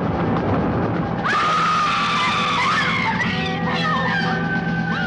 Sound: all screaming

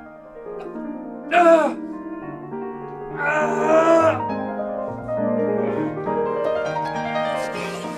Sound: Ryan Screaming in pain

